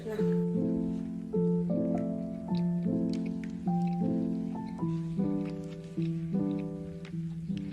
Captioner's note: chewing sounds